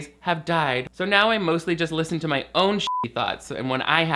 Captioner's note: beep